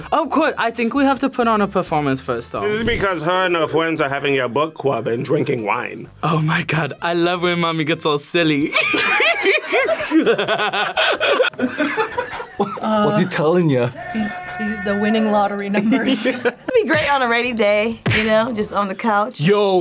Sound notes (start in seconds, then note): 8.7 both laugh; 14.0 laughs